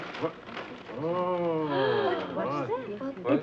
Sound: woman gasps

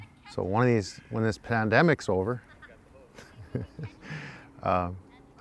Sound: chuckles

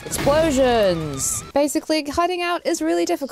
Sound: aggressive rock music; explosions sound; music cuts

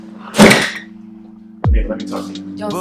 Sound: soft music; door slams loudly; thumping music

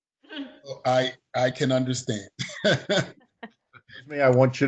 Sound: chuckling

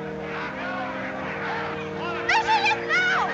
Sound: instrumental music; all clamoring

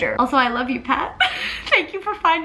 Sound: laughs

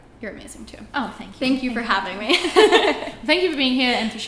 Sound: laughs

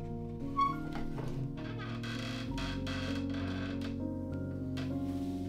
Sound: more squeaking and creaking

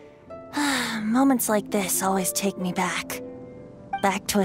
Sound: sigh

